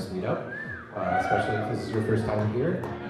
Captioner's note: applaudissements